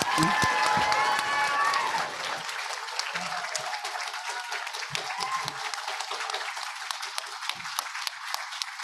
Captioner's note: audience applauding